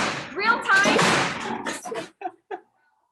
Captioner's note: sow thumping